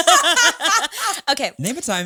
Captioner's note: all laughing